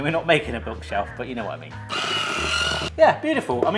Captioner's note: headwhisk whirs